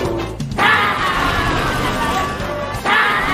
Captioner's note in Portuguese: Gritando